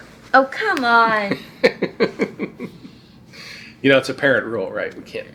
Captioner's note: dad laughing